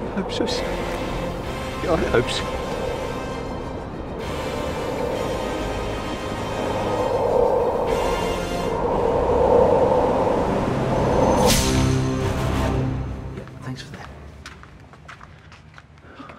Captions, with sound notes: - I hope so son, I hope so. (wind howling) - Thanks for that.